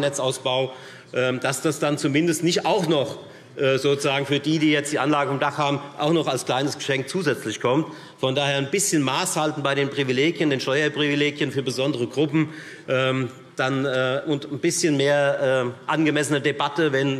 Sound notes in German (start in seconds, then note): none